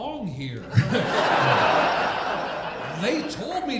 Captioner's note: audience laughing